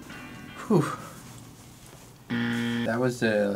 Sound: buzzer rings

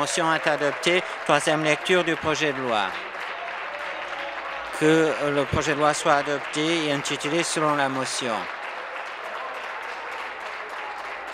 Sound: applause

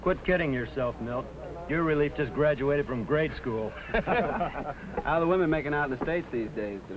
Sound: laughter

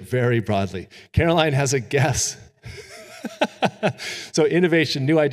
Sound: chuckles

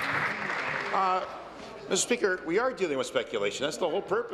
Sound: applause

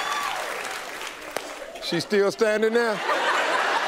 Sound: hands clapping; audience laughing

